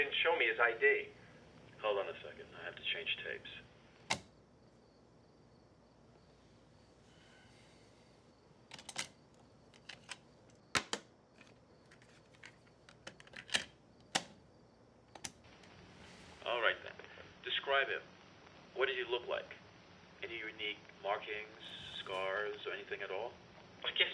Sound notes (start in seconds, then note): 4.0 tape machine clicks; 8.7 tape machine clicks; 13.6 tape clicking; 15.3 button clicks